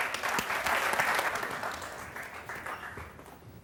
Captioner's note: applause